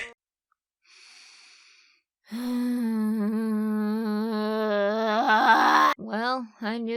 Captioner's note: dejected sigh followed by long annoyed grunt